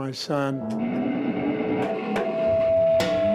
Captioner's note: feedback